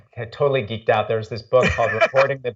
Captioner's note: laughs